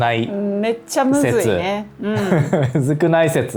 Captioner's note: laughs